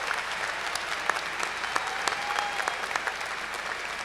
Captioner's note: cheers and applause